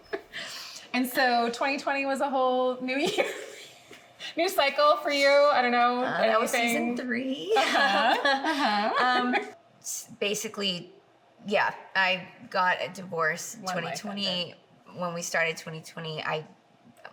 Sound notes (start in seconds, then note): 0.0 chuckles; 3.8 laughing